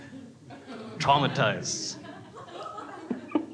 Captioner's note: laughs